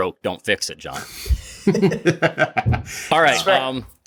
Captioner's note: laughing